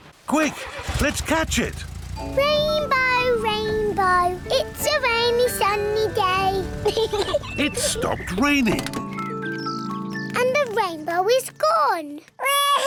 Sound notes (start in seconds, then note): 6.8 peppa pig laughs